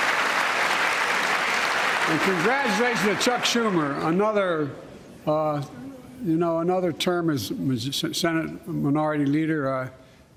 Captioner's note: applause